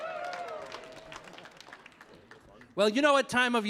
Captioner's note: audience applauding